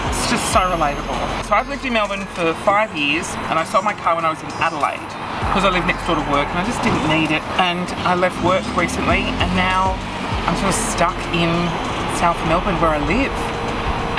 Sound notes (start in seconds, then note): none